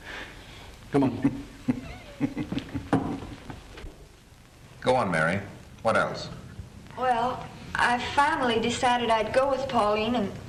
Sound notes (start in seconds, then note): 1.0 King laughs